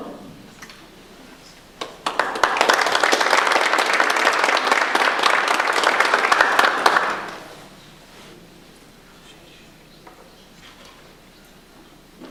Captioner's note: audience applause